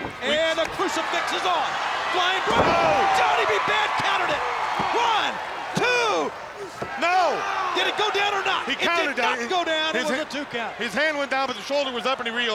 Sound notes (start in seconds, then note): 4.6 hands thudding